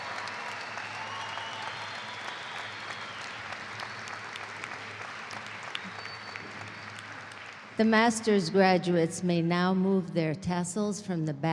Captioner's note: cheers and applause